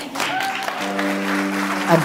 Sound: audience clapping

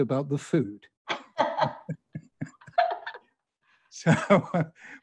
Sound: both laughing

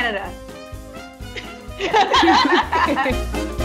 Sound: all laughing; upbeat music

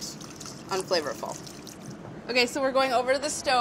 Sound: pouring water

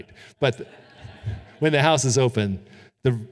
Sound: audience laughing

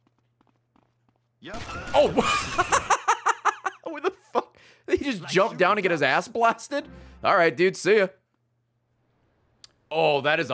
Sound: laughs

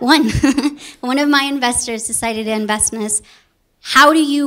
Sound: laugh

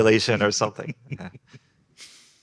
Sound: group laughing

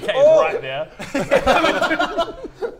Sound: laughter

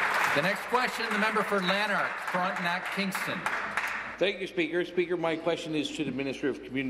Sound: applause

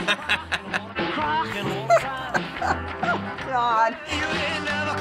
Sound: laughing; cracking up

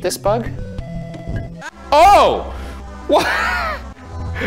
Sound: laughs

